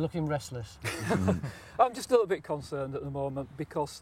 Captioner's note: laughs